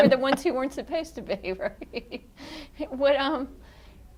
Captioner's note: laughs